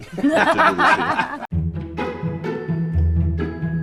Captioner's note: cast laughs; upbeat music